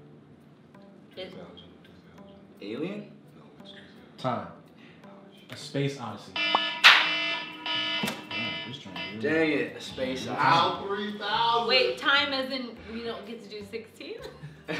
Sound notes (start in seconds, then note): 0.2 whispers; 6.3 alarm rings